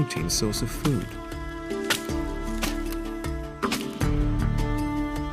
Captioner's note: wood cracking; stimulating instrumental music